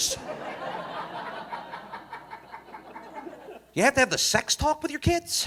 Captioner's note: audience laughing